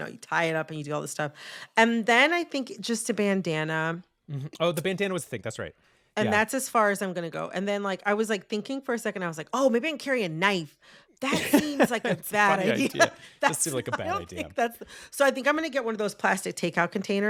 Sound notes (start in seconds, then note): 11.2 laughter